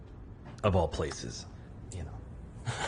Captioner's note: laughs